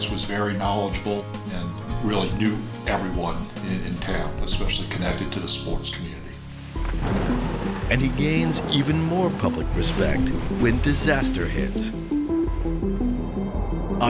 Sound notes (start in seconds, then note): 6.7 thunder rumbling; 12.1 pensive music